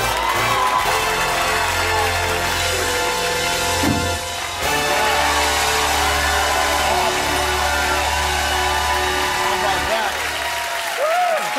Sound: cheers and applause

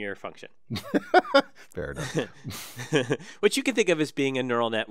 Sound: laugh

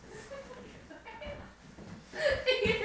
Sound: laughter

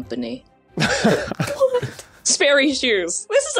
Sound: chuckles

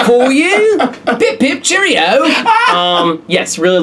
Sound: laughs

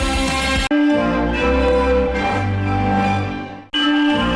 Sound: snippeted rock music playing; chimes resuming

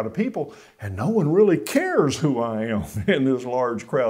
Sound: chuckles

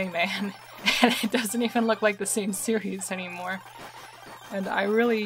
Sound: laughing

